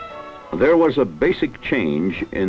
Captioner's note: speech in English